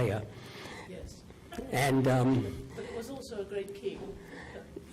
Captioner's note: voiceover